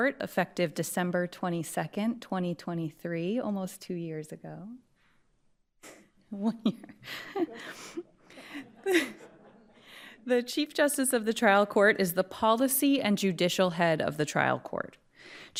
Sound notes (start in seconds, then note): 6.4 laughs; 8.3 attendees laughing